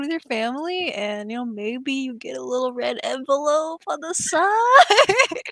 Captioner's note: laughs